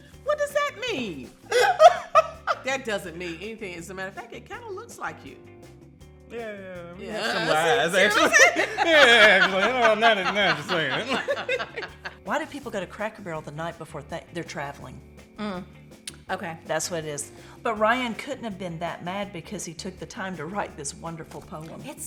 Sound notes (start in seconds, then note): 1.5 laughs; 7.0 laugh; 8.6 jokingly mumbles